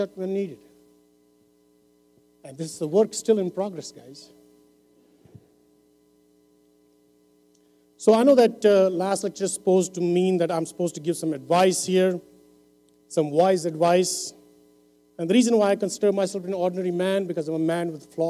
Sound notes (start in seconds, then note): none